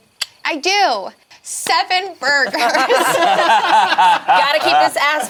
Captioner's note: group laughs